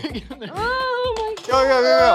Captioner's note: laughs